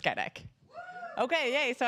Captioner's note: cheers